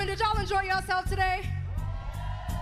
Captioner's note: cheers